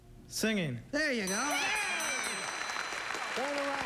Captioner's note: cheering